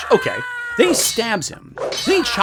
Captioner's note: man screaming